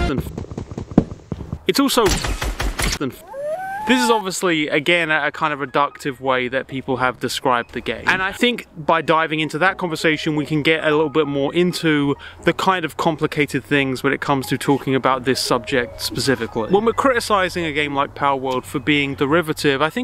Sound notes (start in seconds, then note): 0.3 wood thuds; 2.0 gunfire pops; 3.2 dog howls